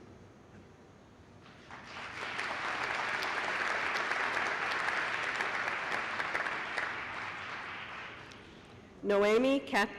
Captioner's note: applause